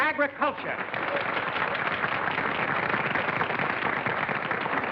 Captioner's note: applause